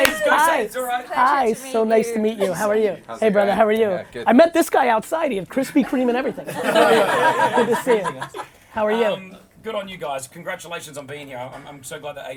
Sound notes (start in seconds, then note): 6.4 laughing